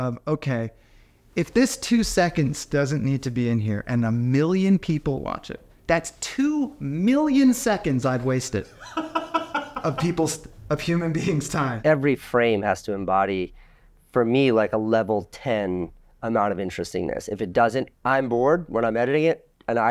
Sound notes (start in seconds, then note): 8.7 laughing